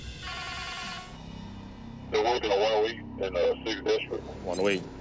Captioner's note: radio chirps